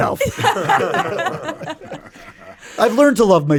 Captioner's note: all laughing